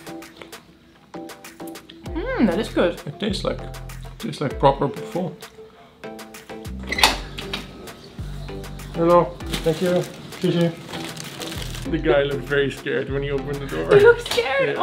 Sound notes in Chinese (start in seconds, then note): 6.8 开门